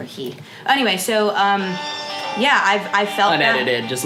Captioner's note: phone ringing